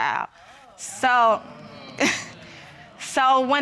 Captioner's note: audience exclaiming; chuckles